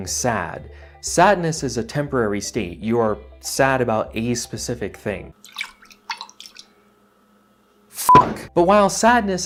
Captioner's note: sloshing milk